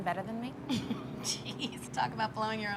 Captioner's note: Wendy chuckles